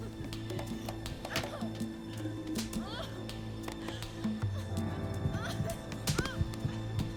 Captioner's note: Catherine groaning and crying; crying; hand smacks